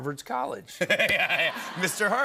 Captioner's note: laughter